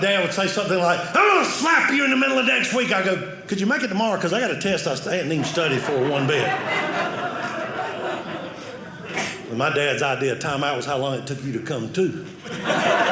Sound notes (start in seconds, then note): 5.2 audience laughing